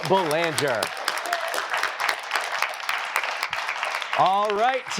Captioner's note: applause